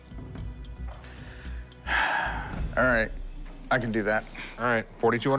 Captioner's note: sighs deeply